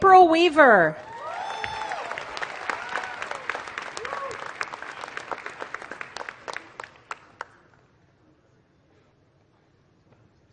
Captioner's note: applause